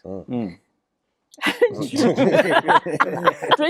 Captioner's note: all laugh